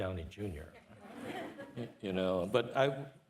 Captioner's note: participants laughing